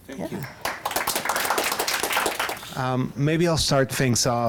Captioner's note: audience clapping